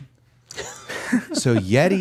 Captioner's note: they laugh